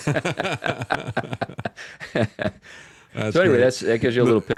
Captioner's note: laughing